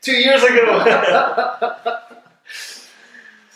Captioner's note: hearty laughing